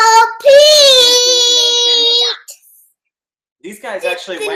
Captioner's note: boy yells into camera